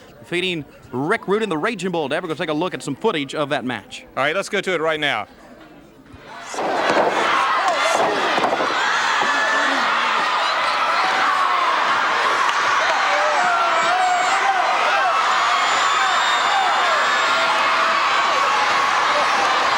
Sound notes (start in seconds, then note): 6.5 body thudding; 6.7 audience cheering